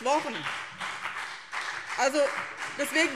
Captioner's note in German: Beifall BÜNDNIS 90/DIE GRÜNEN und CDU